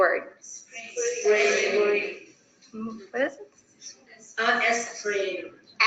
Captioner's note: students speaking in the background